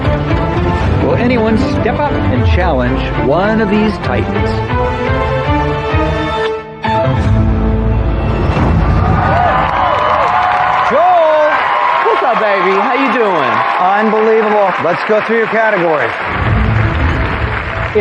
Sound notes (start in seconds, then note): 6.3 dramatic music climaxes; 9.9 cheering and applause